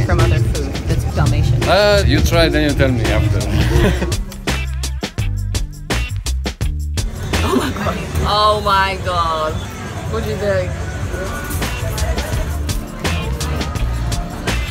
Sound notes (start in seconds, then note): 3.2 laughs; 11.1 upbeat music